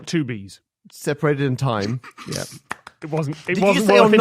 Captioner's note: snort